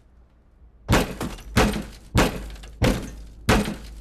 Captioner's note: incessant thudding